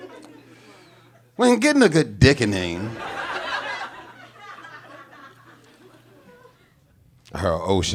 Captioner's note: audience laughing